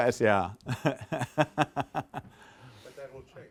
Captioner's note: laughing